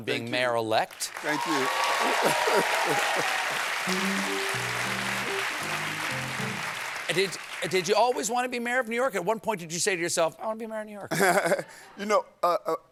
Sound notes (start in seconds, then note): 2.6 applause